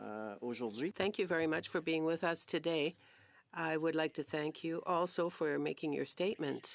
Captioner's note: speaking French